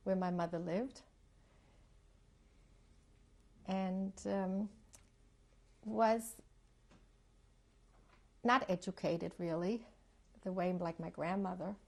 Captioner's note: pauses for 3 seconds